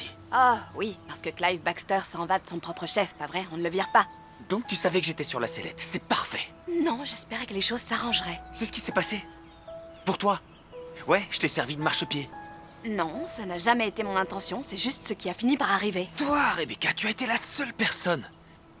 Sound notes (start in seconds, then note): none